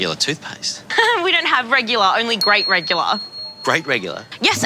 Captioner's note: laughs